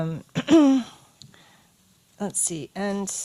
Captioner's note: clears throat